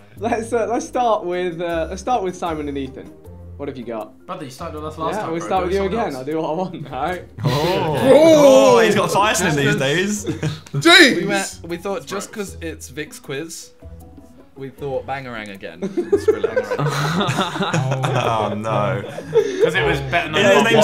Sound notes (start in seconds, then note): 7.4 group oohing; 15.8 group laughing